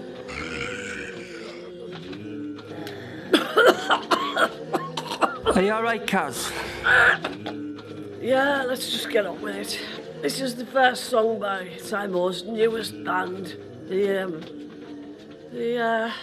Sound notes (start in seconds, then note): 0.1 zombie growls; 3.3 coughs